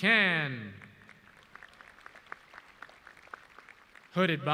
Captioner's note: audience clapping